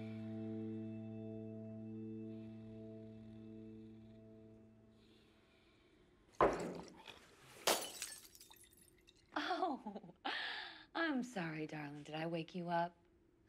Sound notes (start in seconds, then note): 7.5 glass shatters; 9.4 chuckles